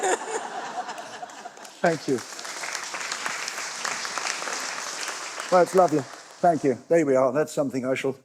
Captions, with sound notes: [LAUGHTER] Thank you. [APPLAUSE] Well, it's lovely. Thank you. There we are.